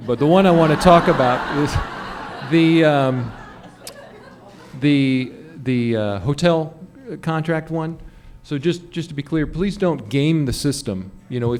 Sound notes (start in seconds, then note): 2.0 laughter